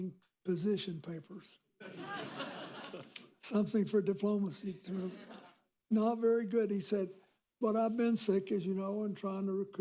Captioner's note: laughter